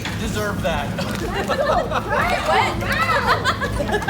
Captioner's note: laughing